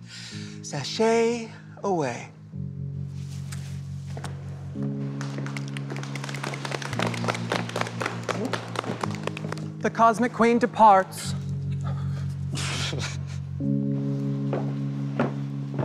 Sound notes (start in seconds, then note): 5.2 applause